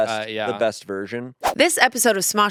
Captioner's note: transition whooshes